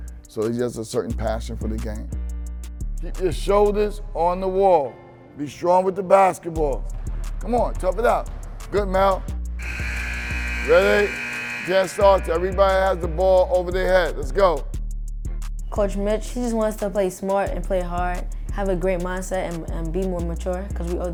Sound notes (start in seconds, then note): 9.6 buzzer beeps